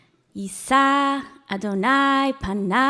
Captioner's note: speaking hebrew